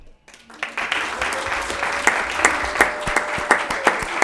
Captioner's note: applauds